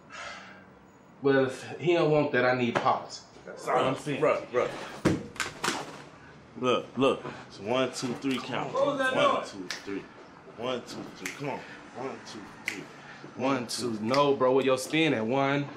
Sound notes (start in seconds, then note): 0.3 scoffs; 5.1 gun drops